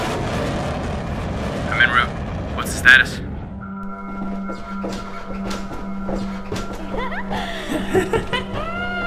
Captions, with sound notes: [TERRY ON COMM] I'M IN ROUTE. WHAT'S THE STATUS? [VARIOUS GIGGLES AND LAUGHTER]